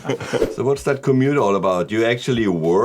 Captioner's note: laughing